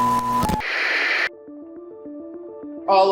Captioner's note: beeping; static crackling; dramatic music